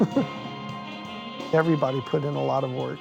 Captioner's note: chuckles